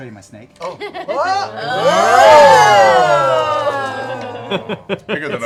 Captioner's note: oohing and aahing